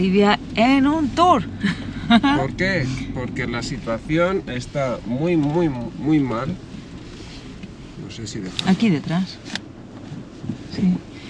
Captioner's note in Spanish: risas